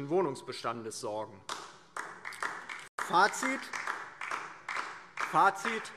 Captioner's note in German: Beifall DIE LINKE